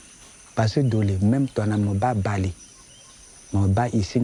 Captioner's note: foreign language